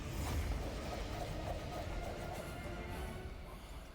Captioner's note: swooshes